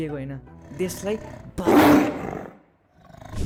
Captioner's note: roars